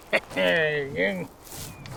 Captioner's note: grunts